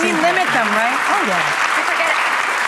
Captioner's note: applause